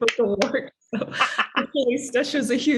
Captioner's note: claps and chuckles